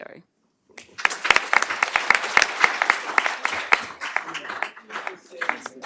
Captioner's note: applause